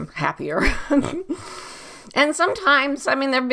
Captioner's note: laughs